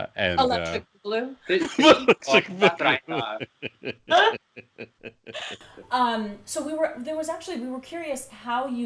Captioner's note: laughs